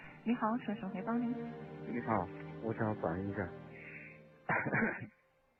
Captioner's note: coughing